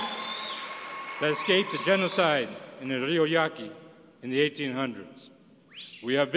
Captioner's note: applause